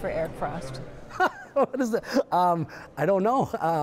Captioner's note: laughing